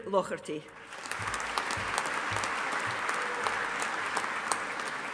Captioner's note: audience applauding